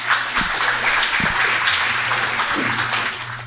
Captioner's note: audience applauding